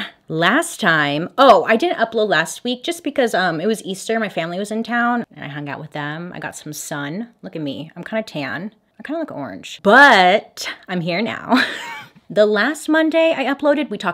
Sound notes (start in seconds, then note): 11.5 chuckles